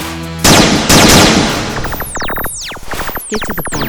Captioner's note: bright rock music; guns blasting